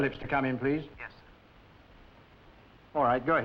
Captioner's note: on phone